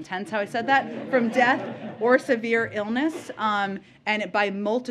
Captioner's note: laughter